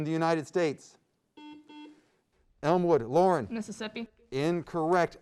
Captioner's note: beep